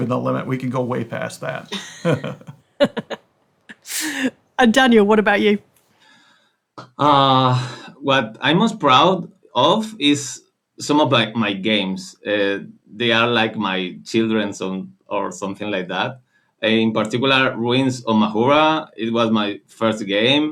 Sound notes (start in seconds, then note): 1.6 laughs; 3.8 laughs